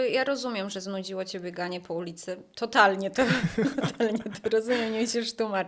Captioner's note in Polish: śmiech